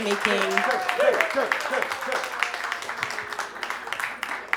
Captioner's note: audience applauding